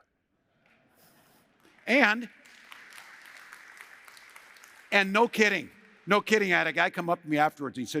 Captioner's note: applause